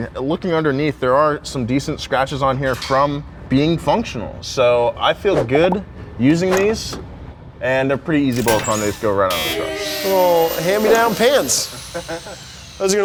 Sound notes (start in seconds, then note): 10.0 buzzer buzzing; 10.0 crowd booing